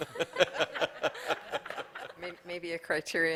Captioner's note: laughter